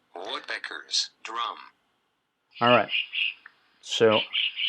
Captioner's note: Flashcards audio: woodpeckers drum…